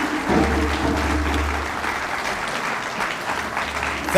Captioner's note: applause